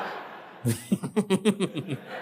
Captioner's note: laugh